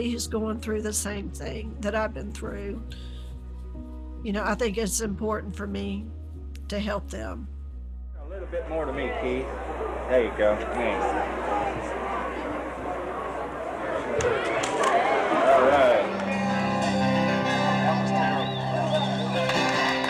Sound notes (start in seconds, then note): 8.2 crowd noise